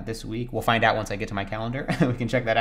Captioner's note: laughs